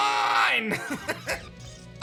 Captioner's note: chuckles